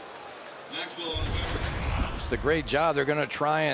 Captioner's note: pa announcement